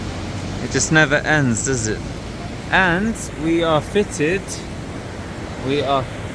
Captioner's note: the rain